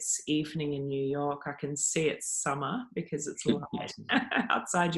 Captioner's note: laughing